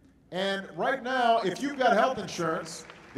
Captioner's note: applause